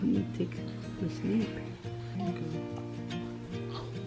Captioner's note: whispers